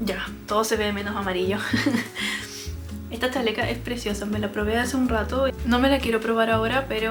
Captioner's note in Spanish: risas